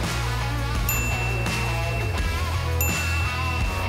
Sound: bell dinging

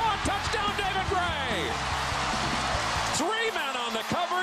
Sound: cheering

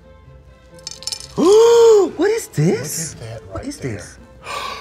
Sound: gasps

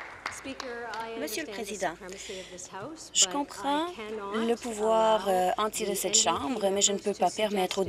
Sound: applause

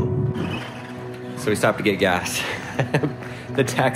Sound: chuckles

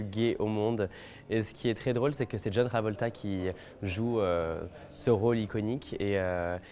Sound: speaking French

